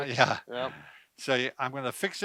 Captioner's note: laughs